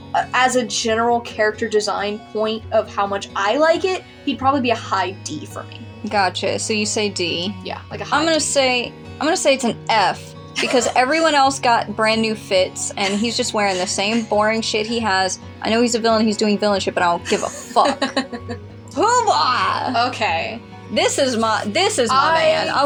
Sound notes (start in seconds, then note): 10.5 wheeze Laugh; 17.1 laugh